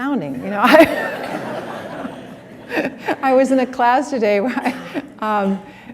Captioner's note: laughter